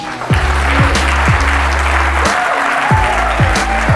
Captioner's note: audience applause